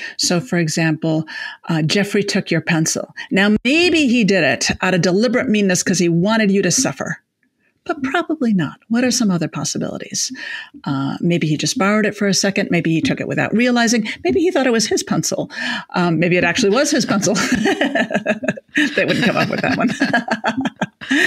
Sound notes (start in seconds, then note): 16.6 laughs